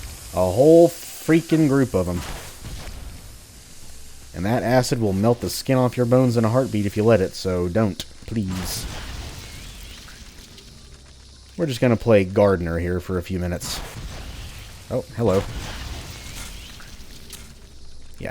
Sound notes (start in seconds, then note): 8.1 moar fwoosh